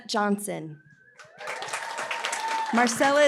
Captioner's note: applause